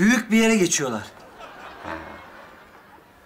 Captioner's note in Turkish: Gülme efekti